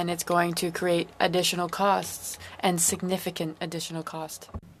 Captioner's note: speaking French